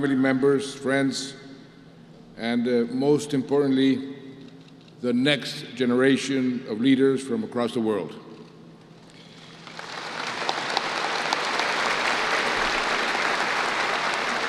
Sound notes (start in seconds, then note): 9.3 applause